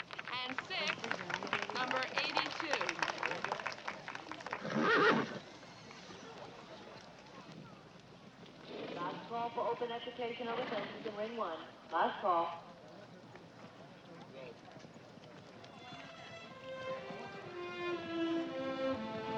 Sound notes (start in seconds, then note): 3.0 audience applauding; 9.2 announcer Over Loudspeaker; 16.3 warm pensive music